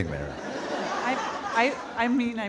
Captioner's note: audience laughing